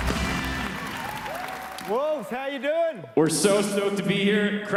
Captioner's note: applause